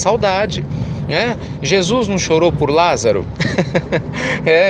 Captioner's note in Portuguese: Risos